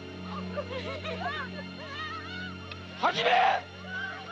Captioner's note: shouting in Japanese; sobbing